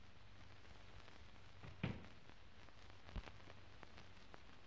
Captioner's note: bag thuds